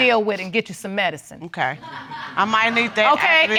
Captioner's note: audience laughing